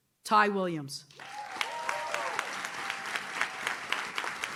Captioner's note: audience claps